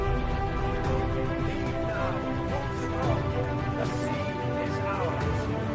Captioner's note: chatter